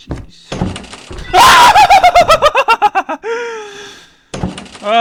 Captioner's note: scared screaming!